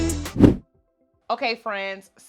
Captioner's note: air whooshes